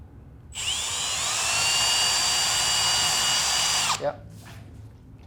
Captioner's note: drill noise